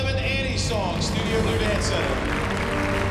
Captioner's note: applause